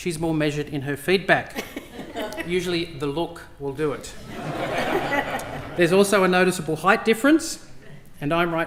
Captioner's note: laughter